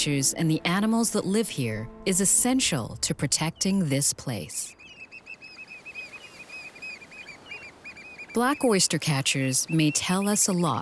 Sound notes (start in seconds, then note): 4.3 bird calls